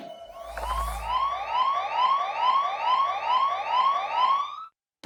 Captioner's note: siren whoops; siren stops